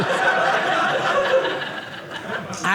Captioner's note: audience laughing